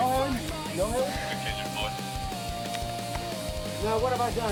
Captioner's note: radio cahtter